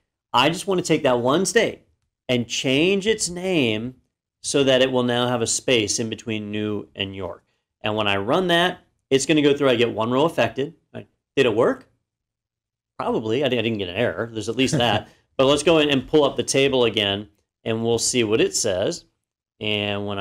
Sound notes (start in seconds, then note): 14.6 laugh